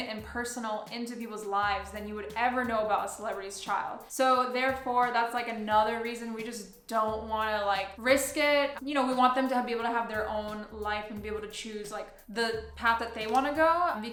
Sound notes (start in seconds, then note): none